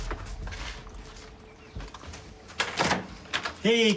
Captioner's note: door opens